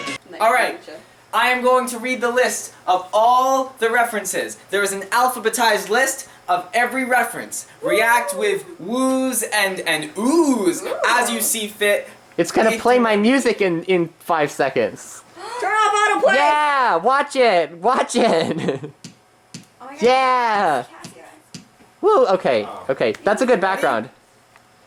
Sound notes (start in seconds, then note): 15.4 crowd heckles